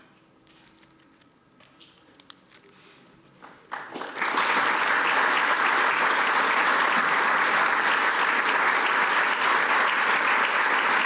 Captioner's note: applause